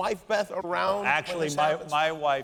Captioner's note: laughter